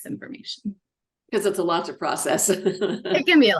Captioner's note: laughs